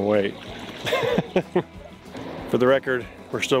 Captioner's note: laughs